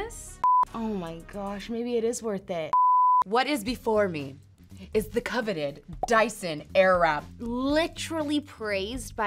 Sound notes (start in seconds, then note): 0.4 TV beeps; 2.7 TV beeps